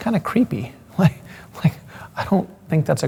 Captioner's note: laughs